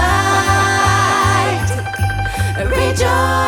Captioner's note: laughs